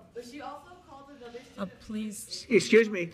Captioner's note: speaking faintly